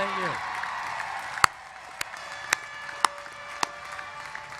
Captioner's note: applause